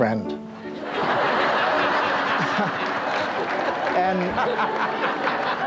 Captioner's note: audience laughs; Rickles laughs